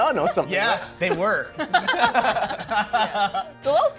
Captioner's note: laughing